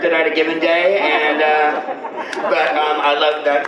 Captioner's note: general laughter